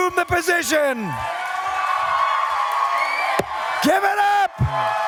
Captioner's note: cheers and applause